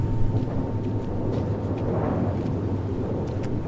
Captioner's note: wind blowing